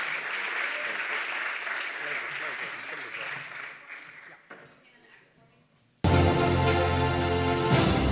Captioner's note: applause